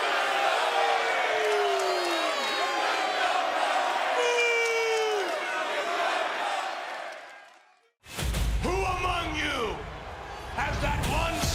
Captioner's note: crowd cheering